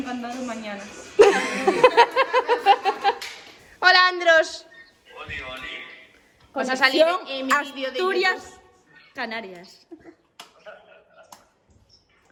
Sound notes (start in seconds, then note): 7.5 laughs